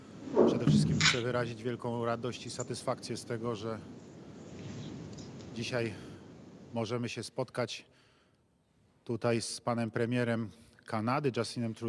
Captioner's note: speaking Foreign Language